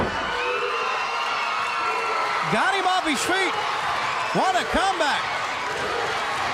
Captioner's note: crowd cheering